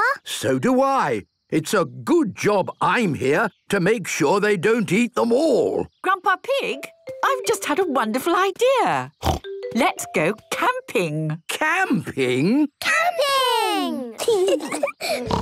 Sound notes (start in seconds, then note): 9.2 snort